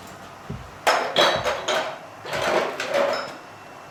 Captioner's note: metal clacking